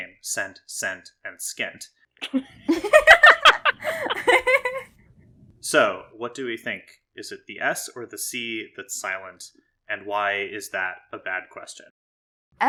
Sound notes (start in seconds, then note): 2.3 laugh